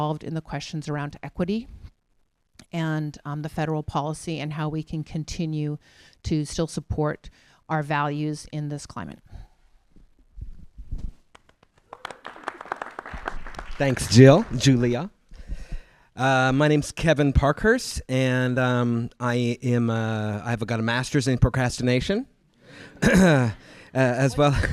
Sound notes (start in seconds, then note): 11.4 applause